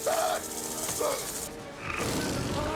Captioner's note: screaming; roaring